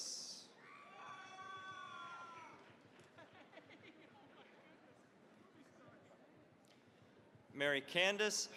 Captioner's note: cheering, applause